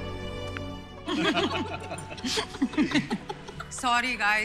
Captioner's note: All laughing